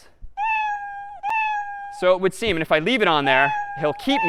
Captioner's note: meow